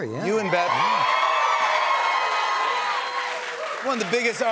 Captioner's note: cheering